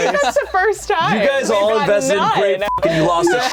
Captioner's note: beep